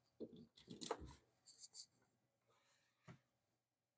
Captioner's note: silence